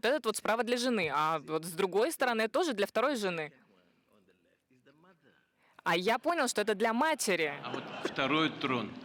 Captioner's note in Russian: Смех